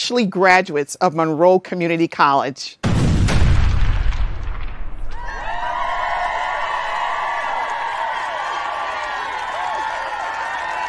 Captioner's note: sound of explosions and cheering